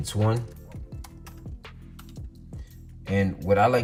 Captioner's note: typing on keyboard